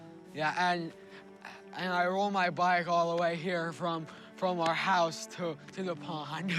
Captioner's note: laughs